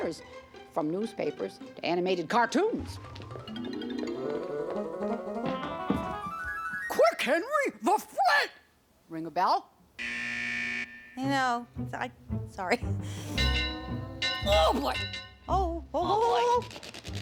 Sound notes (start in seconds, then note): 6.2 in ad character voice; 8.3 in normal voice; 10.0 buzzer buzzing; 13.2 bell ringing